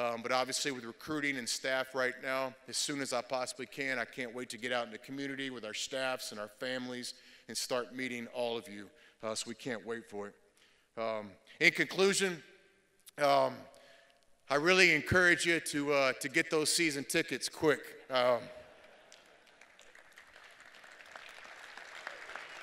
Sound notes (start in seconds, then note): 18.3 laughter; 20.3 applause